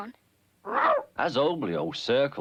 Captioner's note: Arrow barks